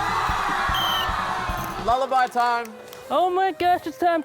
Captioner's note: blows whistle